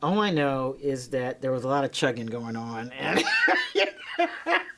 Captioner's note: laughing